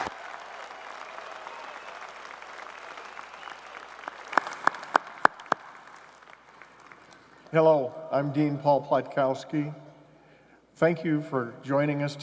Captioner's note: cheers and applause